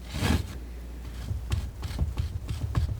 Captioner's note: tapping